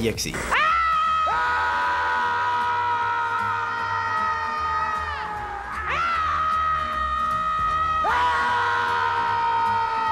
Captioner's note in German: schreien